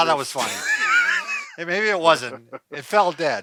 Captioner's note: both laughing